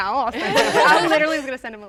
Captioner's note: contestants laughing